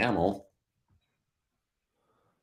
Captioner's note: none